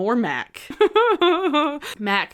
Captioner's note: laughing